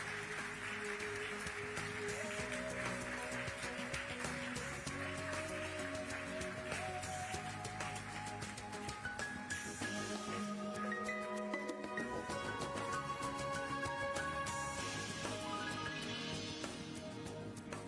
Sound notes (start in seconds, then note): 5.1 applause